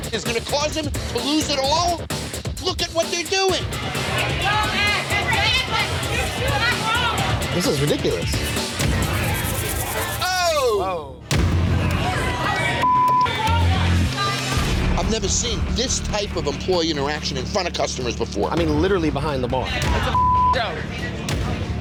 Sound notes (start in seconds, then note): 11.3 dramatic music; 12.8 beep; 20.1 beep